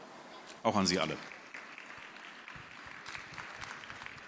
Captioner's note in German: Beifall